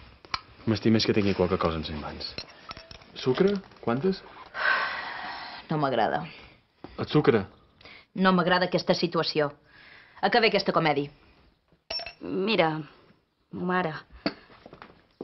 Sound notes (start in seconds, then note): 4.7 sighs